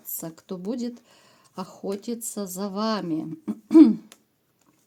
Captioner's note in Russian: откашливается